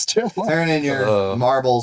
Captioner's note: laughing